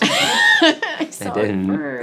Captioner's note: laughing